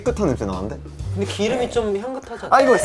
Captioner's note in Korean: 킁킁